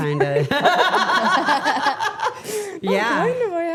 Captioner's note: everyone laughing